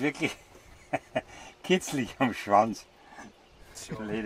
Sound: laughing

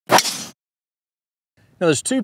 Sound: whack

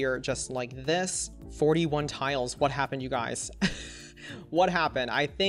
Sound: chuckles

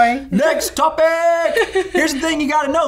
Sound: laughing

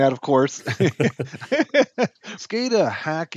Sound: both laughing

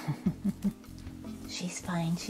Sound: woman chuckling

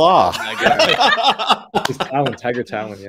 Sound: laugh

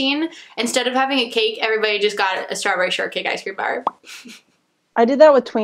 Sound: laughs

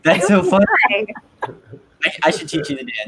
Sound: laughing

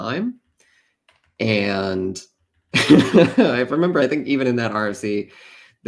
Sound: laughs

